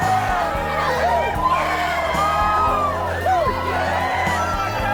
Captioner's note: crowd cheering